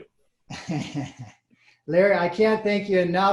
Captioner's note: laughing